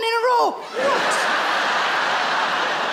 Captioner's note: laughing